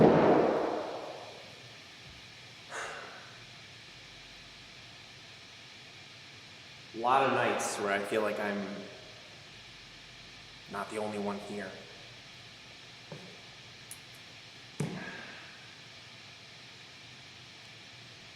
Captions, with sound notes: (bottle thuds) (Jacob sighs) A lot of nights where I feel like I'm not the only one here.